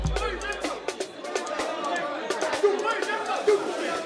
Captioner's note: chatter